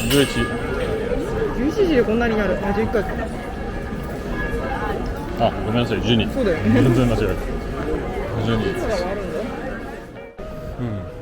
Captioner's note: A lot of bells ring at 12 o'clock